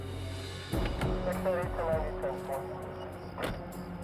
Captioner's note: police radio